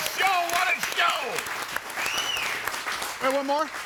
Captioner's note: crowd applauding